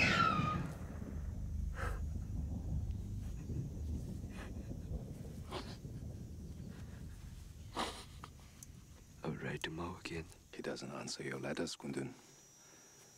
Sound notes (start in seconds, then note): 0.1 gasping; 5.6 sniffling